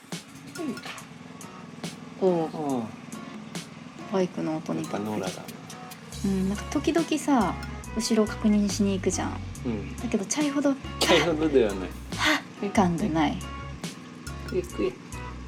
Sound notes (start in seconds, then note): 0.9 engine sound